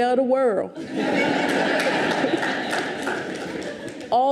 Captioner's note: audience laughs